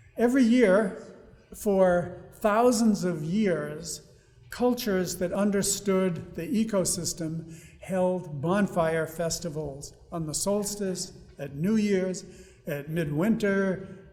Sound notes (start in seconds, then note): none